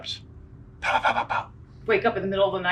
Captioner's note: imitates mousetraps